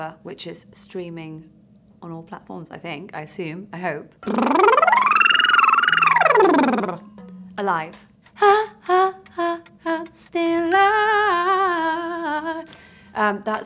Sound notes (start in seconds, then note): 4.2 blowing lips; 9.0 clock ticking; 12.1 bell dinging